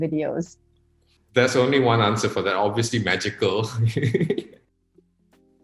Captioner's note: laughs